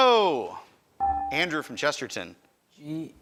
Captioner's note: buzzer chimes